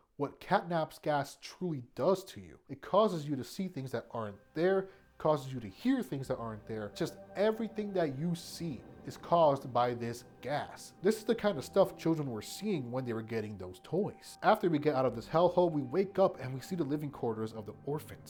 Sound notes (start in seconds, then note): none